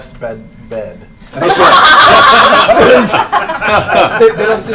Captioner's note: laughter